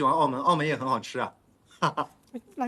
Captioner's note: laughs